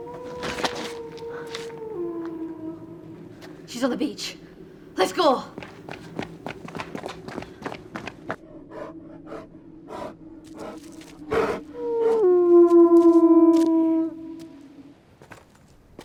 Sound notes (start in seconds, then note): 0.0 wolf howls; 10.4 wolves panting; 13.2 howling